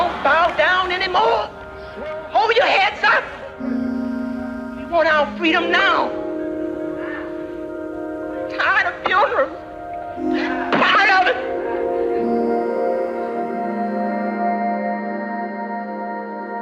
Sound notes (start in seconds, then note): 7.6 crying